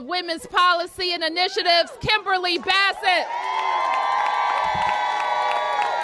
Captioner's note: applause